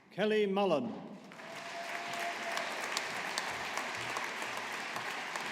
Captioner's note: audience applauding